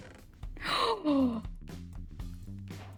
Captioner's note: gasp